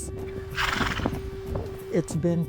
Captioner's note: horse snorts